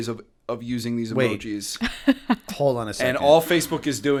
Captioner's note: chuckle